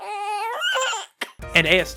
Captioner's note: baby fussing